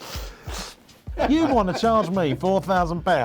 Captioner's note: laughing